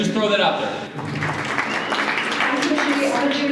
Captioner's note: applause